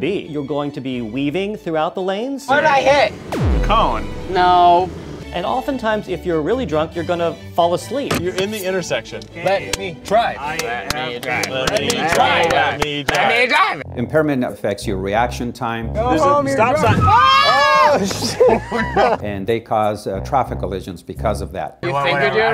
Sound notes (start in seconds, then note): 17.6 yelling